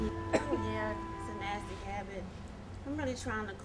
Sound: coughs

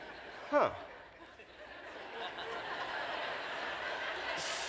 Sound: laughter

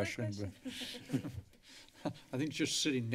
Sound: laughter

